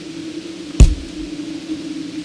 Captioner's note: kick noise